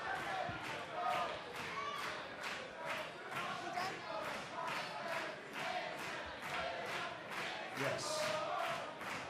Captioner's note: fans chanting